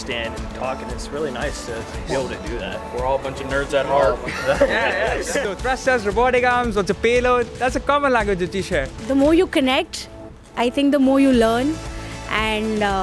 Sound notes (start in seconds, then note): 4.2 laughter